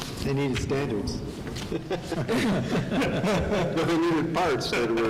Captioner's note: laughing